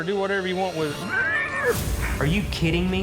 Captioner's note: horse neighing